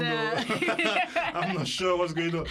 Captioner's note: laughter